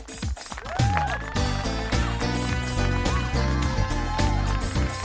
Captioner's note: audience applauding; upbeat music; audience cheering